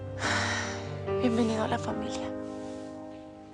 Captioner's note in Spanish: Suspiros